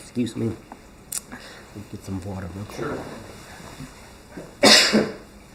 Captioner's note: coughs